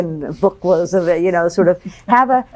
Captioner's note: chuckles